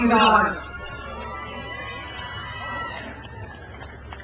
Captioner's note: crowd cheers